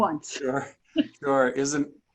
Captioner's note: multiple people laughing